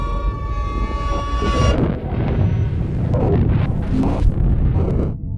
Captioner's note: distorted crackling